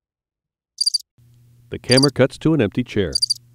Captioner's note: crickets chirping